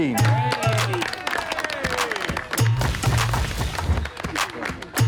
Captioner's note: Green Team clapping